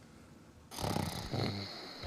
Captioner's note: snoaring